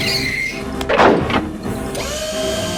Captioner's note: mechanical whirring; swoosh